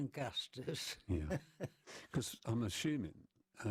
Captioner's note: laughter